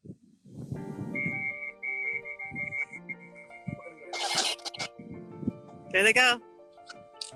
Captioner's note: pensive music; whistle hoots